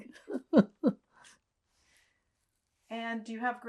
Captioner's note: laughing